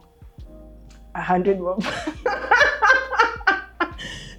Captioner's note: laughs